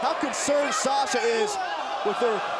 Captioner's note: crowd chatter